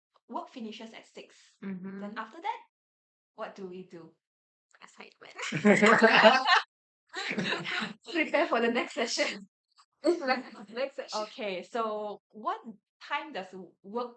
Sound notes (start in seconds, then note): 4.7 whispers "assignments"